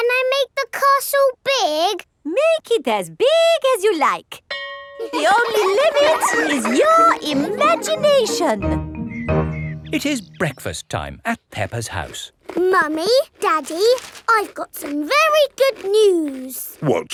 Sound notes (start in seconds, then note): 4.5 school bell rings; 5.0 children laughing